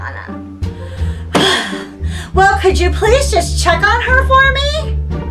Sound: sigh

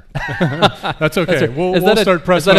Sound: laughs

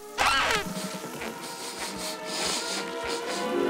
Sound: sniffing

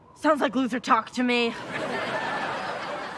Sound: audience laughing

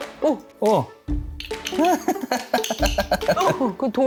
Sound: laughing out loud

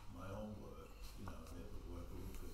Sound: speaks faintly

